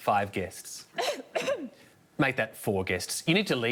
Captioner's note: woman coughs